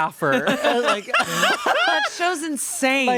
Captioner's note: everyone laughs